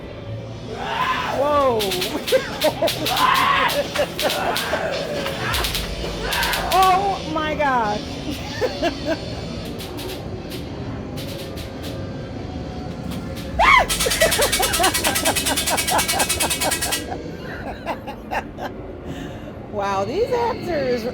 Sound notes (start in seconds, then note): 15.2 screams; 16.4 laughter